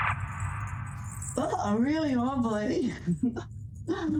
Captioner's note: laughing